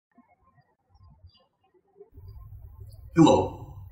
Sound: birds chirping

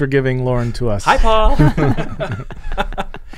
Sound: laughing

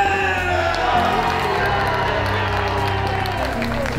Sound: crowd cheers

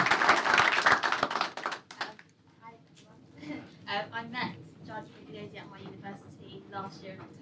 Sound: applause

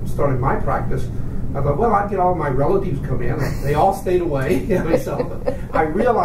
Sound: laughs

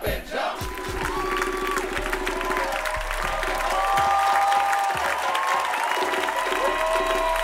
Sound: audience hoots and hollers; audience claps

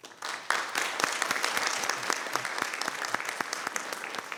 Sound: people clapping

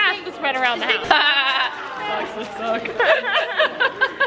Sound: laughing

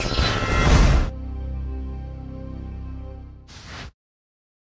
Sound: scene whizzing; logo whooshing

